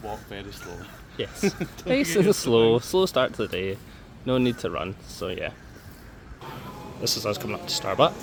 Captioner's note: laughs